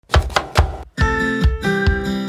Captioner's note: upbeat music; knife tapping